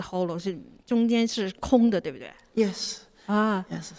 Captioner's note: speaks in a Mandarin